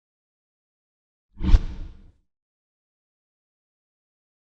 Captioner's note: air rushing